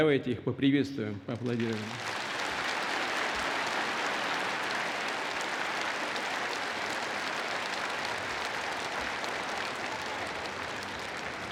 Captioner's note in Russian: Аплодисменты